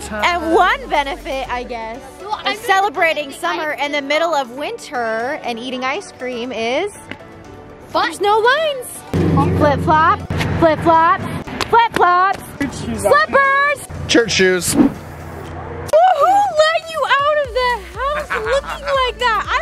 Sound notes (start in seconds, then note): 13.0 background murmuring; 14.6 swishing